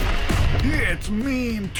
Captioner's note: explosion